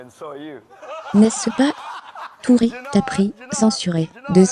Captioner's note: all laughing